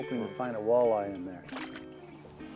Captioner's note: splashing